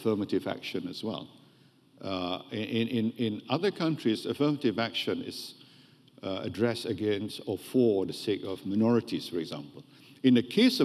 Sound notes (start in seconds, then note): none